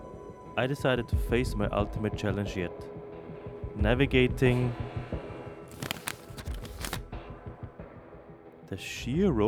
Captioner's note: paper Sounds